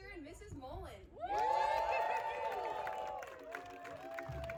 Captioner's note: friends and family cheer